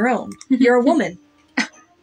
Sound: giggle; scoff Laugh

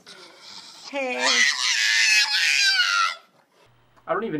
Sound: screeches again

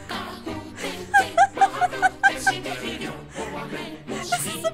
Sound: laughing

